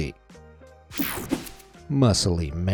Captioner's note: screen whooshing